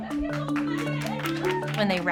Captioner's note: clapping